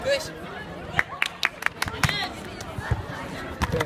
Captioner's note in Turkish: şak şak şak